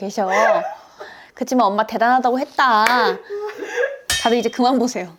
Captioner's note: claps